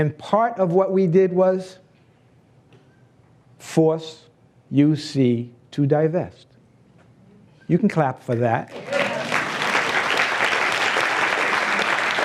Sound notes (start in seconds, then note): 8.7 applause